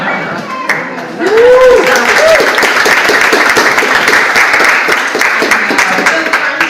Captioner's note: audience applauds